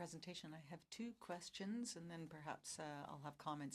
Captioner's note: speaking french